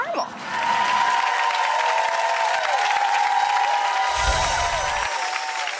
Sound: audience applauds and cheers

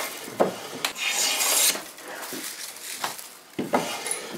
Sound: grinding planing noises

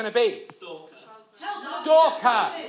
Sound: overlapping shouts from audience

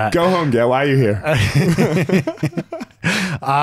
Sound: laughing

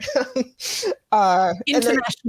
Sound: laughs

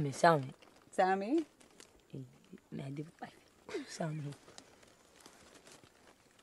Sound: group speaking in foreign language continues

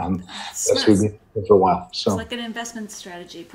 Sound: breaking up

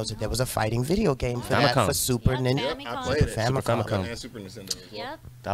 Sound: group chatters

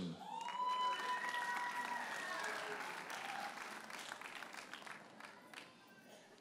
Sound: audience cheers and applauds

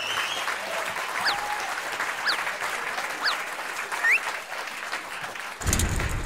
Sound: applause

